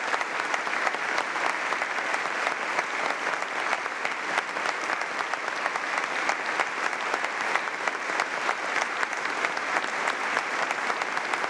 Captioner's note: applause